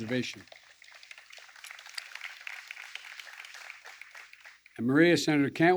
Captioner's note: applause